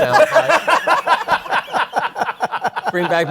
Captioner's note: laughter